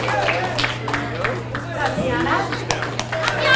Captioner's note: audience cheers and applauds; audience applauds